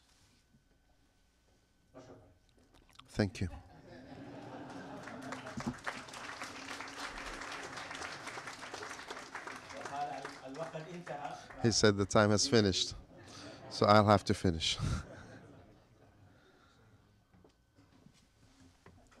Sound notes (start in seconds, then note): 0.5 applause